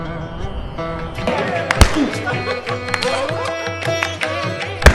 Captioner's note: guys laughing